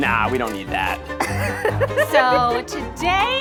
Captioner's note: laughing